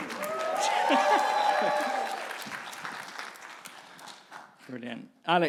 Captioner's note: audience applauding and cheering